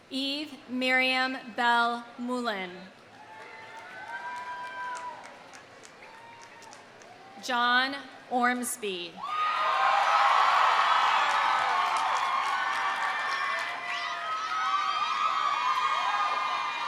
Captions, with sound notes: Eve Myriam Bell Moulin. (audience cheering) (audience applauding) John Ormsby. (audience cheering) (audience applauding)